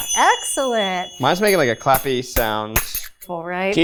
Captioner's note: zappers clacking